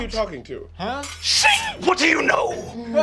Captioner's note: sword scratching